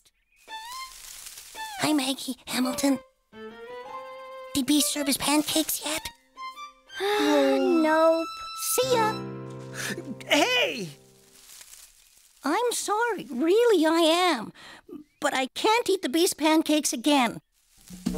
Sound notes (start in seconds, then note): 1.0 whispering; 7.0 sighing